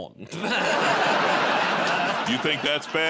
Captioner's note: laughter